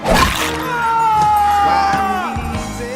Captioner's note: cat screams